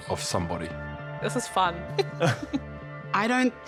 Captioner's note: giggles; chuckles